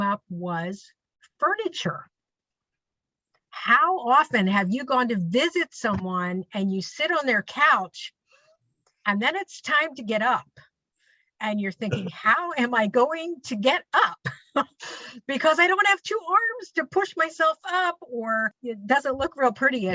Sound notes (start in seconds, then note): 14.5 laughs